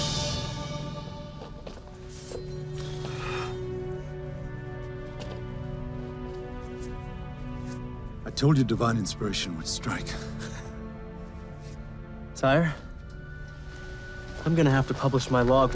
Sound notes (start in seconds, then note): 2.0 gentle music; 11.6 laughs